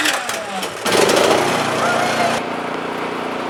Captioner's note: engine running